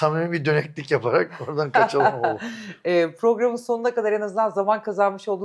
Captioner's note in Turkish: kahkaha